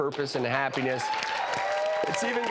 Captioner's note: applause and cheering